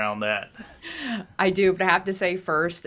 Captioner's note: laughs